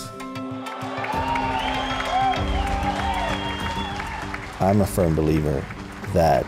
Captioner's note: applause